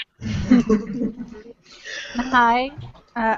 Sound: laughter

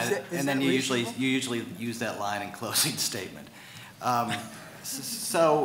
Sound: laughs

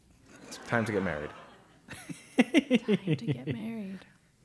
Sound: laugh

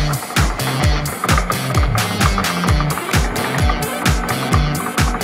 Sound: gears rumbling

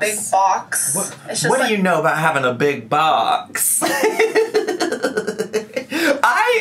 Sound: laughs

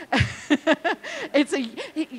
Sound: laughing

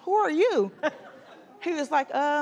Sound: laughter

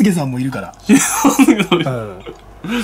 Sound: laughter

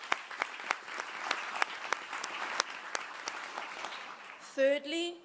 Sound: applause

